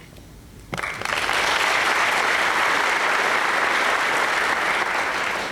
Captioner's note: applause